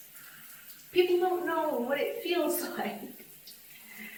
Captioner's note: laughs